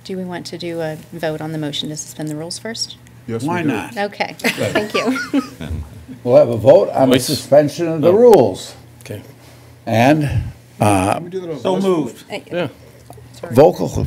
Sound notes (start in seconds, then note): 4.4 laughter; 12.2 chatter